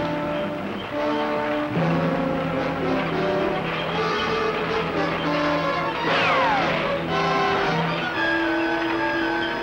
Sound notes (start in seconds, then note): 6.0 shot whistles